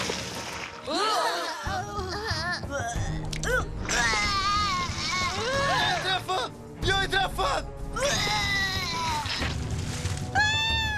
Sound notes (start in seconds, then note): 0.8 gasps